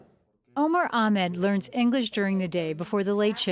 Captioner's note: voiceover